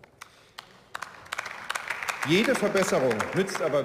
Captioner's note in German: Beifall